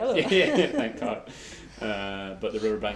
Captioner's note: both laugh